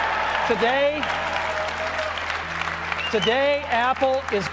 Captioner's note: audience clapping